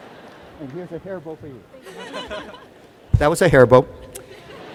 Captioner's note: laughter